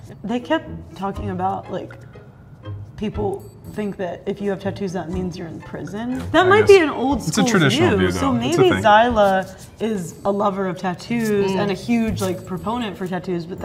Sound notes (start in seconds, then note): none